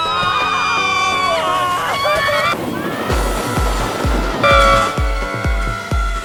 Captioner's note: screams